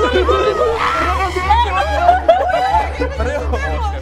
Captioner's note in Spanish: gritan